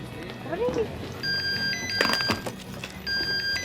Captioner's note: phone rings